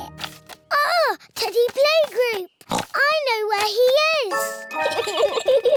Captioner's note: oinks; both giggle